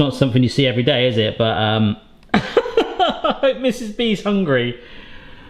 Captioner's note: laughs